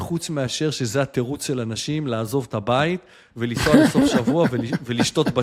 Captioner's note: laughter